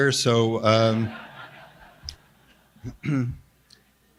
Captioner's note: audience laughs